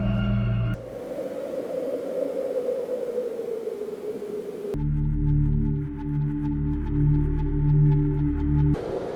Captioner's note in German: Wüsten-Umgebungsklang